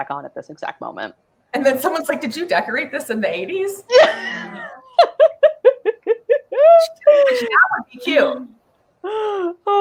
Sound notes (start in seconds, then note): 3.9 laughs